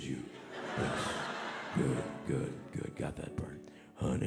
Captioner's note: audience laughing